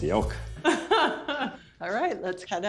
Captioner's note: laughing